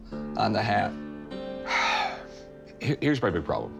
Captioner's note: sighs